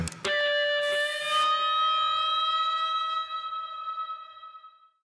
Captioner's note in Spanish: Soplido